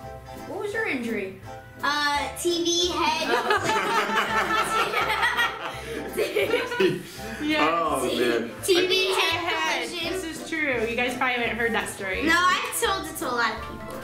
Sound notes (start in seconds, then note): 3.2 laughing